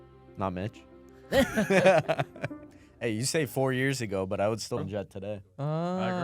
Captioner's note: laughs